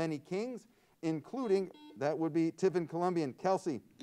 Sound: buzzer sounds

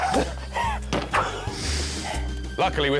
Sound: sniff!

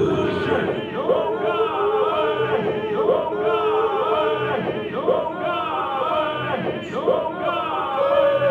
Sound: people yelling, echoing

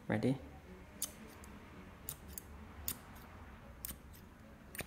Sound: scissors snipping

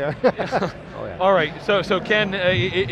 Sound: all laugh

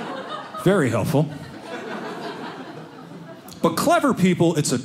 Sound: audience laughing

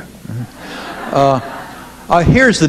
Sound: audience laughing

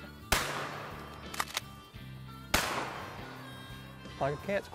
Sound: gunshots

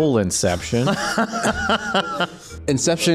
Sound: laughs

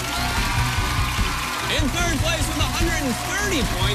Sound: cheers and applause

